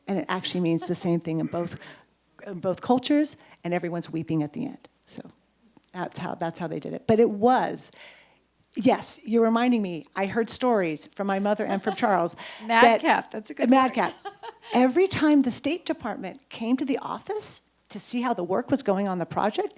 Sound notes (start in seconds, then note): 13.6 chuckles